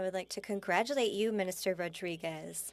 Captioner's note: speaking French